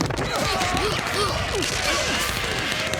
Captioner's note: gunfire; alarms sounding